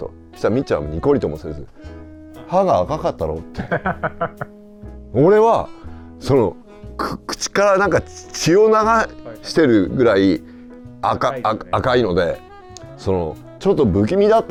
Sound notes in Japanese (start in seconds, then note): 12.3 笑い